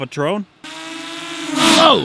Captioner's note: whirring; laugh